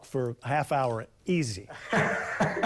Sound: laughter

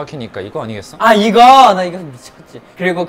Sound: confident

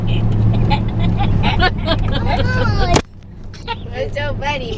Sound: kids laughing

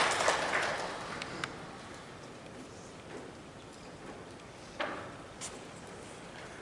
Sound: applause

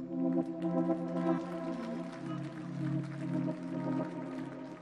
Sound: audience applauds

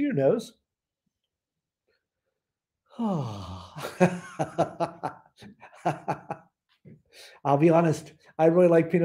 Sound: laughter

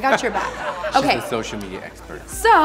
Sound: laughter

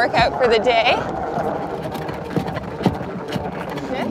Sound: machine whirring

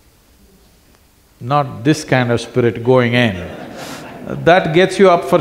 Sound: laughter

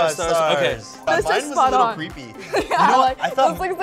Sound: laughing

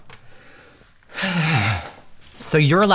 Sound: sighs

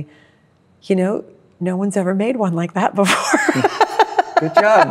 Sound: laughs

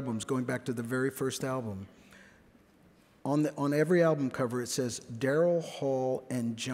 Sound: none

